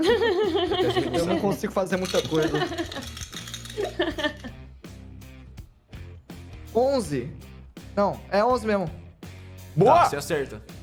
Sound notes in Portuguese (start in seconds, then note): 3.7 risos